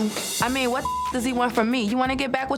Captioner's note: beep